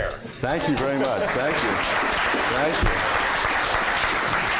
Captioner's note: applause